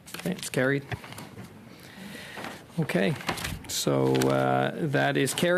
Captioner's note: speaking French